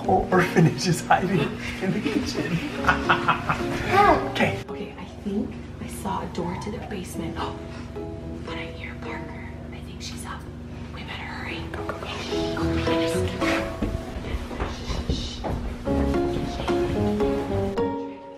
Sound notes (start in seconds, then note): 3.5 laughing; 8.0 gasps; 15.6 playful instrumental music